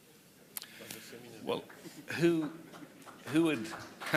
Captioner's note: applause